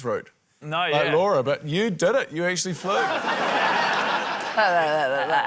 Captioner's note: laughter